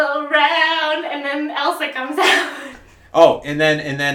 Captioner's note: laughs